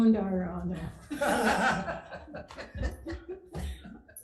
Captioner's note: laughter